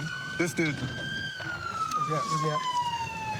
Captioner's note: siren wailing